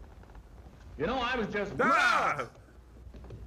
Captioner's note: all exclaim